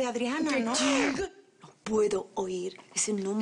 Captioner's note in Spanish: Rugido